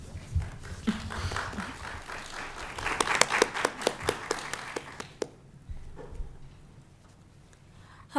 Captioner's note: applause